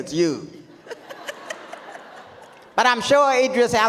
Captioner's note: audience laughs